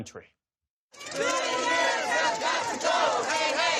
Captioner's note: chanting